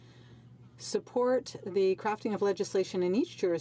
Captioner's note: speaking French